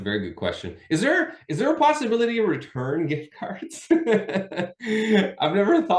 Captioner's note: laughing